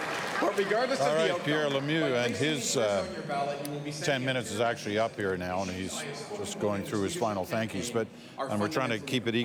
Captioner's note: applause